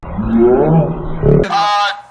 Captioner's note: pitch down